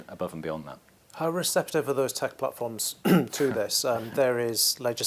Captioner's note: cough